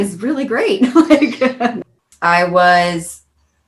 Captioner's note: laughing